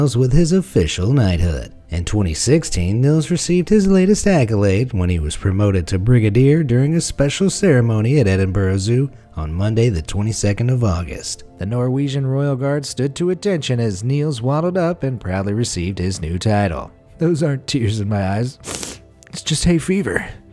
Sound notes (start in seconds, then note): 18.6 sniffles